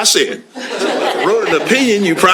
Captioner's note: laughter